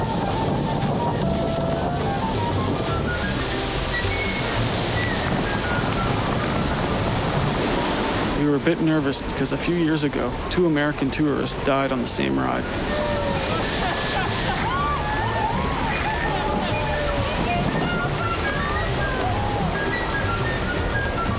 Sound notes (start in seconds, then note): 4.0 upbeat Music; 17.3 laughing